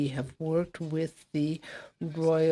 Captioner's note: speaking French